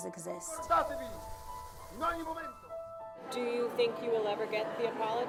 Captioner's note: Mussolini speaking in foreign language